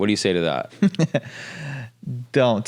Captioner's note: laughs